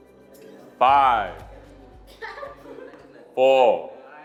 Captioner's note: students chattering